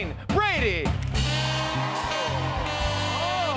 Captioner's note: cheers and applause